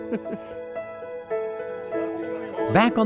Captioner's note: laughs